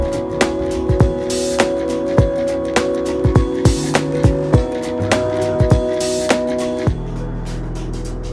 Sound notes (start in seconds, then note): 4.0 machine whirring; 5.5 upbeat music